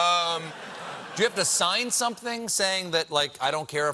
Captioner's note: laughter